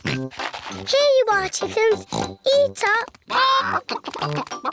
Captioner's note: oinks